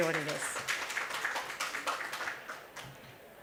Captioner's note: applause